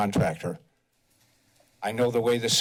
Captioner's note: pause